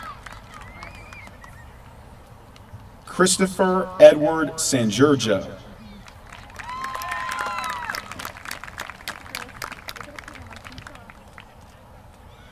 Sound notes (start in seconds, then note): 6.0 applause